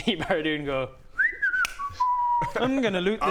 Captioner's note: innocent whistling